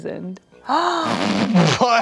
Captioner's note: gasps